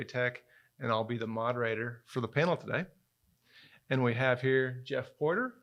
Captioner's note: none